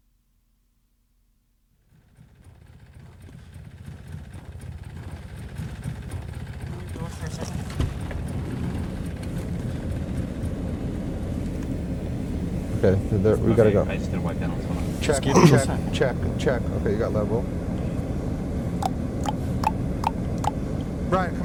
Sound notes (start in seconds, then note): 2.8 machine rumbling